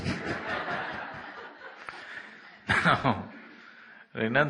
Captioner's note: laughter